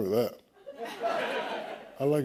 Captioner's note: laughter